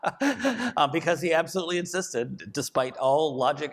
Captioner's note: laughs